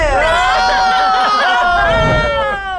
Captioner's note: players laughing